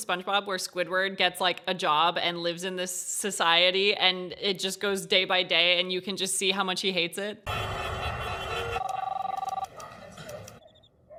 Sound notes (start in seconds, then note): 7.4 traffic noises